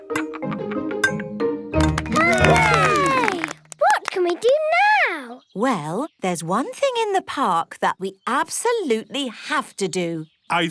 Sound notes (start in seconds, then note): 1.9 all cheer